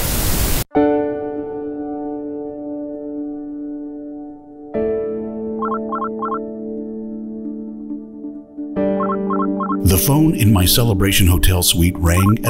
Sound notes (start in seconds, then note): 0.0 television Static; 5.6 telephone Ringing